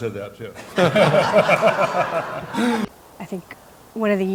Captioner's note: everyone laughs